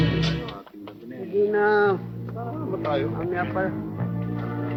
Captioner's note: people chattering